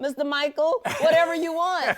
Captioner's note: laughs